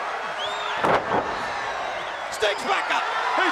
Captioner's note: wrestlers thudding on ring